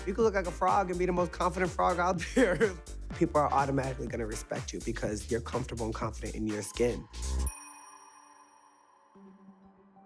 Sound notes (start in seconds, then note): 2.3 laughs